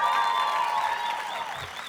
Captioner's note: audience cheers and applauds